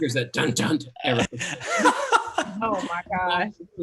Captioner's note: laughing drowns out speaker